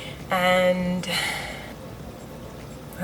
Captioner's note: sighs